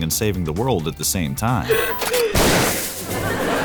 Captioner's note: laughing